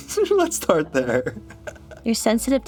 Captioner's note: chuckles; giggles